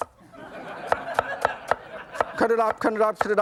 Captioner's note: audience laughs